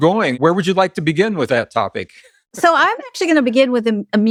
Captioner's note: Gregg laughs